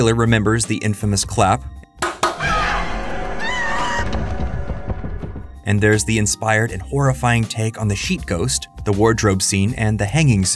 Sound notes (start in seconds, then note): 1.9 clapping; 2.3 screaming